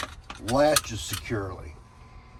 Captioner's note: buckle clicks